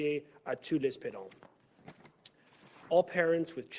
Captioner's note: speaking French